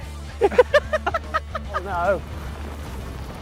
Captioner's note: all laugh